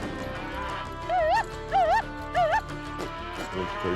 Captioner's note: yelling